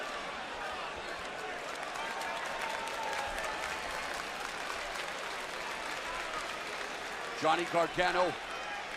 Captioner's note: crowd cheering